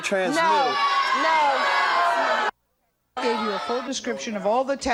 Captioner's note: audience outrage